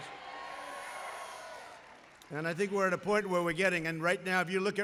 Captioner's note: applause